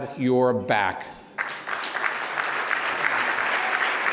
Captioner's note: applause